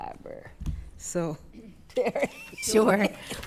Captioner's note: laughing